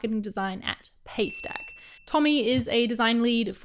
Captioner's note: ding